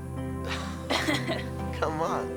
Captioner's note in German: Lachen